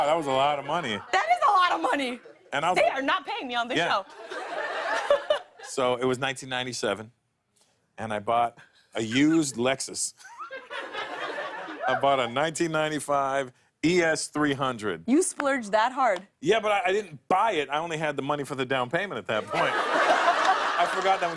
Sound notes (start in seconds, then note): 10.1 laughter